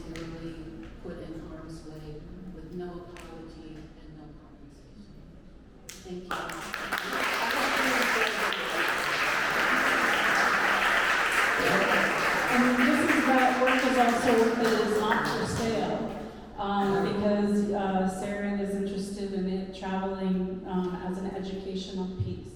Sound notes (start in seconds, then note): 11.2 applause